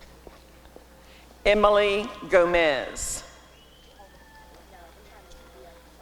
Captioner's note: applause and cheering